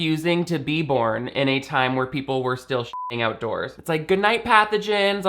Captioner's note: beep